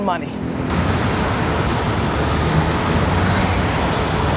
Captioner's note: car engines revving